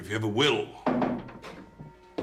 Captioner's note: mengetuk pintu